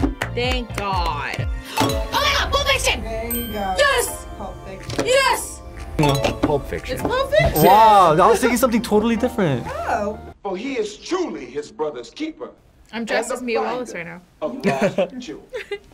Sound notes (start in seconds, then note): 3.3 bell dings; 7.4 bell dings